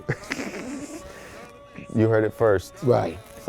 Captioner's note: laughs